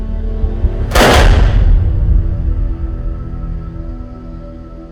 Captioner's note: gun firing